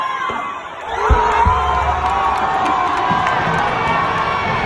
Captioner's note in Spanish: Gritos y aplausos